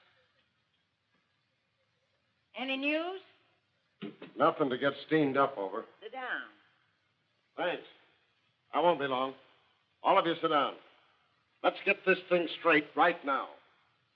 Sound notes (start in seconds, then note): 4.0 door clicks